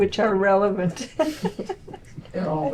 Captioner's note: laughter